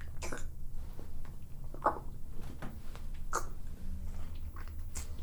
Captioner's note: wet mouth noises; chewing